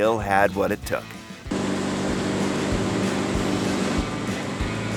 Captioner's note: boat engine roaring